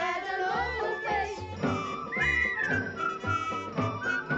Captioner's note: whistling melodically